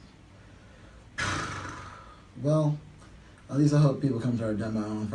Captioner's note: flaps lips